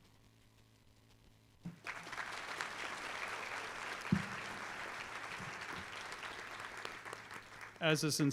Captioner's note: applause